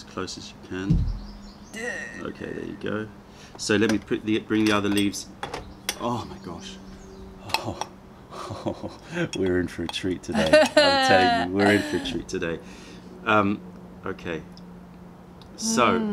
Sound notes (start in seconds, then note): 10.3 laughter